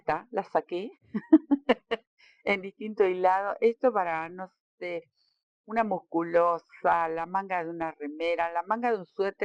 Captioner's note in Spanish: risas